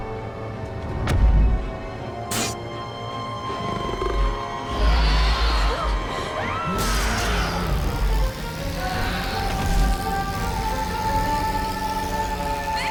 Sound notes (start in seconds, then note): 5.9 Vicky screams; 5.9 creature growls